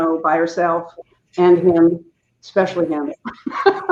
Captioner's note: laughing